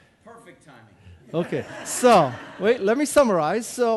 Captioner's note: audience laughing